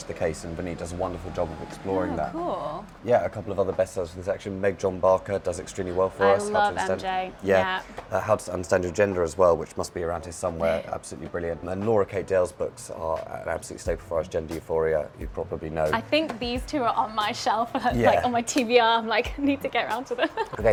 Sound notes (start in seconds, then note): 10.7 chuckles; 20.2 laughs